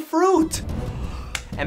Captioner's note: gasp